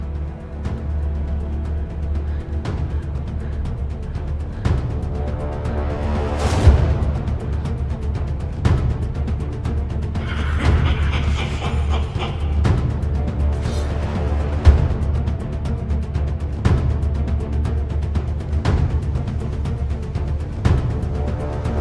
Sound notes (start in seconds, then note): 4.5 dramatic music; 10.1 evil laughs; 13.5 dramatic music